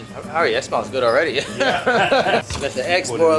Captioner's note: both laughing